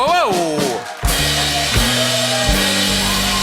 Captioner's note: cheers and applause